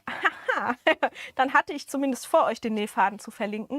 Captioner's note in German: Gelächter